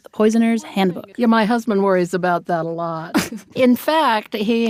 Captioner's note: laughs; laughs